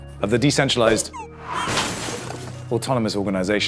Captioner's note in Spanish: Estrepitoso